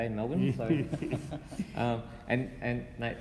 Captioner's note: laughing